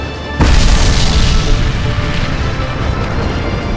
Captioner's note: booming